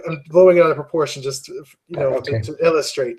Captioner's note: laugh